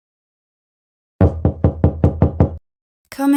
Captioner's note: knock knock